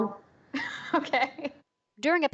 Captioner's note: laughter